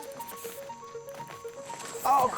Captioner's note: bat squeaks